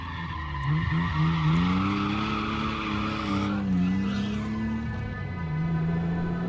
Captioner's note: engine revving